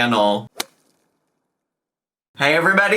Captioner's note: logo thuds